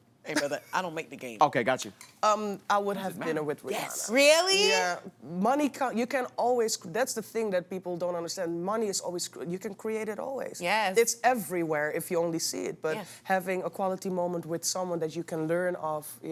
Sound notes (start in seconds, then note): 3.6 scoffs